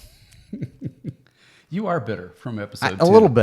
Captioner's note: chuckling